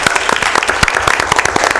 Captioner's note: applause